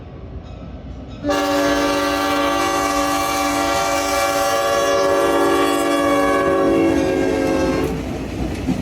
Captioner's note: very long horn